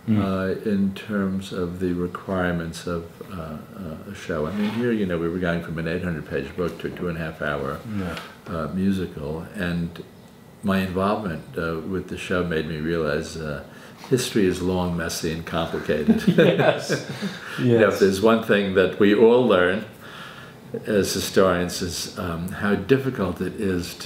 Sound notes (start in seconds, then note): 15.8 laughs